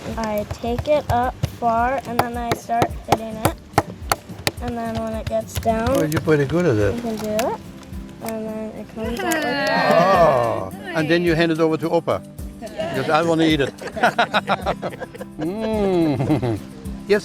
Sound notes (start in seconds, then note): 9.4 cheering; 14.4 laughing